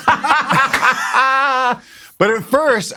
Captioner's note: laughing